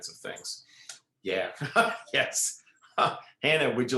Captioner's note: laughs